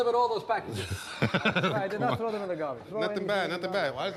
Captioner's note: laughs